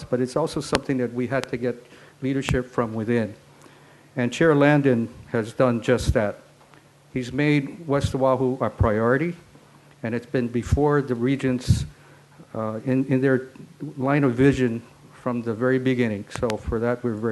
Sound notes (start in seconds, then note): none